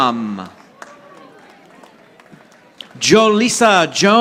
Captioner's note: audience applauding